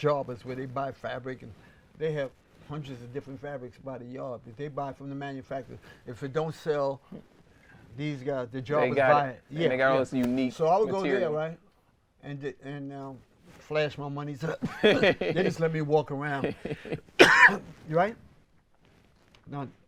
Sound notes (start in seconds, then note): 16.5 laughs; 17.2 cough